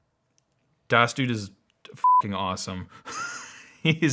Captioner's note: beep